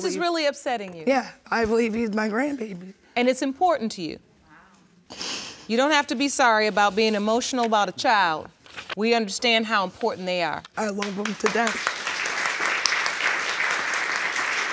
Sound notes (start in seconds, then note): 5.4 sobs; 12.7 audience applauds